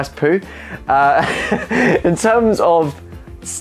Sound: laughing

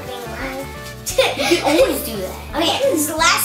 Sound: laughing

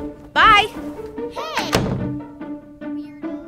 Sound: door slams

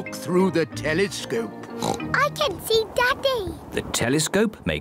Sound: oinks

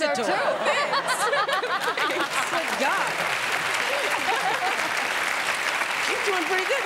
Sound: applause

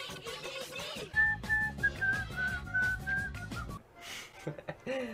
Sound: whistles with music

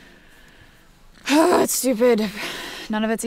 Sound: sighs

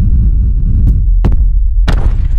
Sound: thud

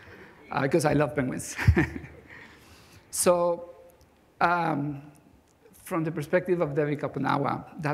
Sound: chuckles

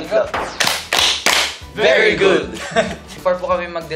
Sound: clap; claps three times

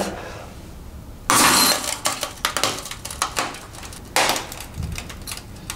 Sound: computer smashes and crackles

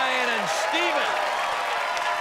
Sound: cheers and applause

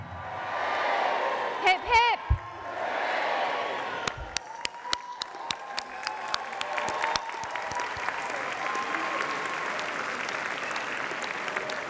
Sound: applause and cheering

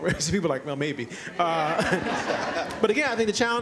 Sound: laughter

